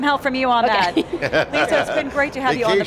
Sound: laughing

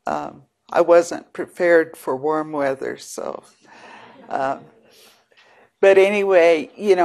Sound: audience laughs

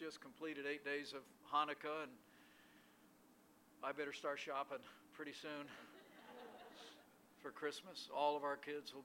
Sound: laughter

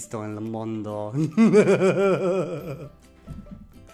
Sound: evil laughter

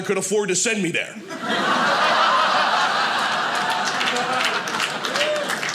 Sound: audience laughing; audience applauding

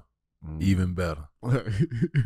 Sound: laughs

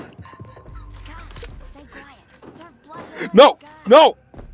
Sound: laughs

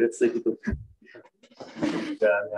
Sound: laughter

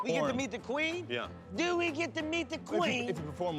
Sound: British accent

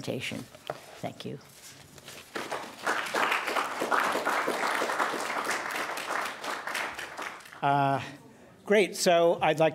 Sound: applause

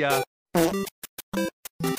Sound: fart

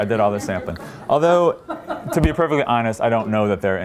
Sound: laughter

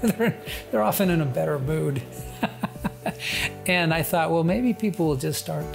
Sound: chuckles

